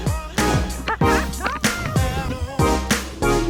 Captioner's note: laughs; upbeat music